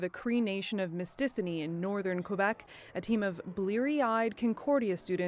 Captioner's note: cheers and applause